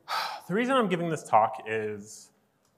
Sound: sighs

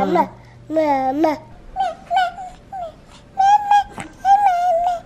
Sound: babbling

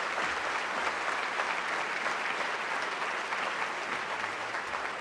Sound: applause

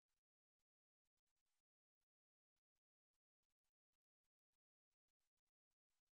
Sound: none

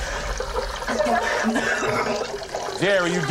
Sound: panting; coughing

